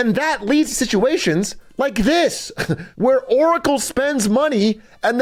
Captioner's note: laughs